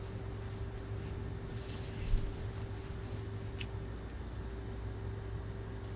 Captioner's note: wig rustling continues